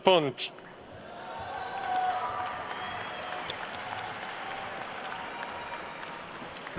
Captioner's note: attendees cheering and applauding